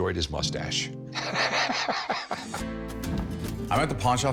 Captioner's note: laughs